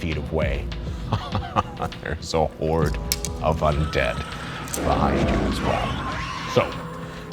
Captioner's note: laughs